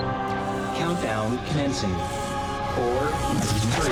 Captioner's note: computer voice